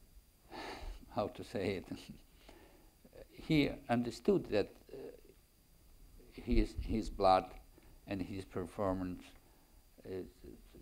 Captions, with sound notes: (sighs loudly) how to say it? (chuckles) He understood that his blood, and his performance,